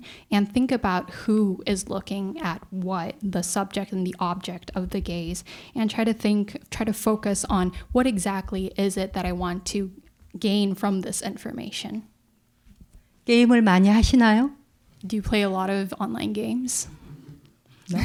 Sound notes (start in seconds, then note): 13.9 speaking in Korean